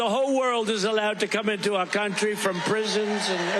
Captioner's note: applause